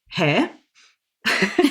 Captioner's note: laughing